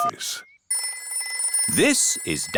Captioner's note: phone rings